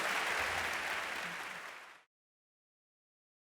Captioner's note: audience applauding